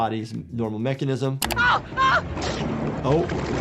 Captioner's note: screaming